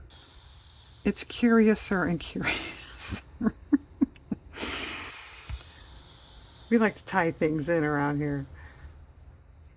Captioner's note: laughs